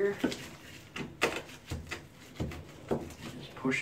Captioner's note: board taps